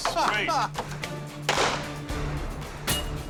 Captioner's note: gunshot